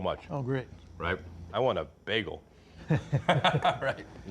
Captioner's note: they laugh